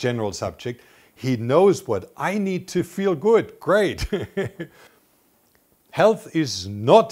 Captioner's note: laughs